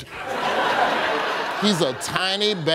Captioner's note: audience laughing